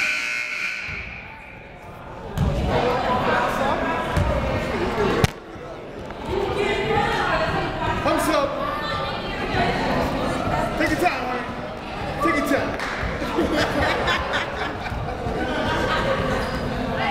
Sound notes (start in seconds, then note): 0.0 buzzer goes off